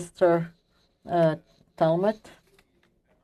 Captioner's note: speaking French